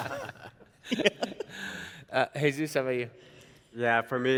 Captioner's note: chuckles; panelists laughing